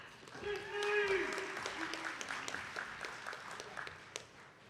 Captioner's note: attendees clapping